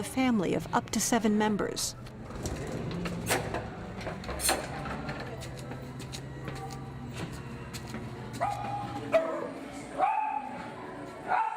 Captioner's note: dog barking